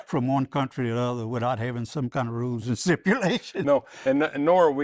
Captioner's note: laughs